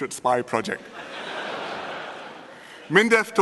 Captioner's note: laughter